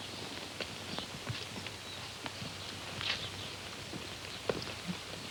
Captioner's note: birds chirping